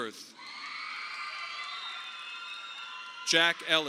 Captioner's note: audience applauding